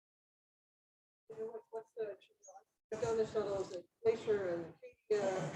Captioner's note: speaking faintly